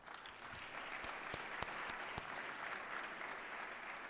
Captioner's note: applause